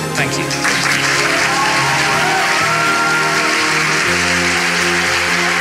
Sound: audience applauding

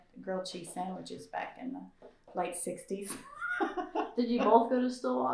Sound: laughs

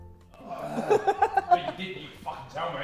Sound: Vikram laughing

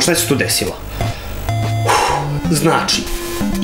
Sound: exhalation

